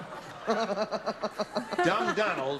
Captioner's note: laughter